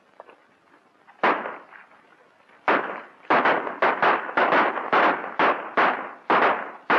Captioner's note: gunshots